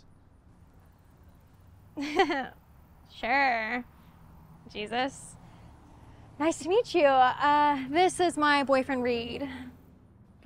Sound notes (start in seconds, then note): 2.0 laughs